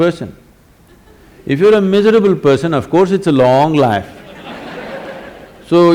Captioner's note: laughs; laughter